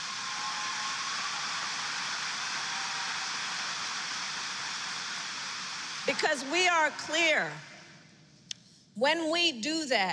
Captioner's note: applause